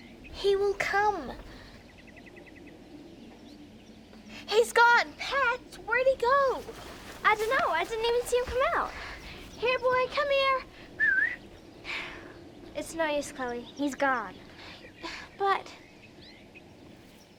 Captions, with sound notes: - He will come. He's gone. Pats, where'd he go? - I don't know, I didn't even see him come out! - Here boy, come here. (whistling) - It's no use, Cloe, he's gone. - But,